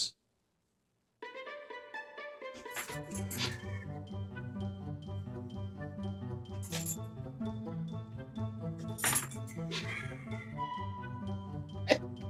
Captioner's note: giggling and laughing